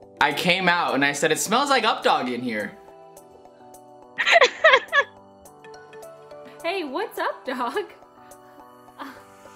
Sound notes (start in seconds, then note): 4.2 laughing